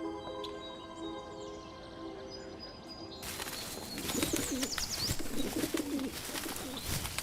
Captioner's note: birds chirping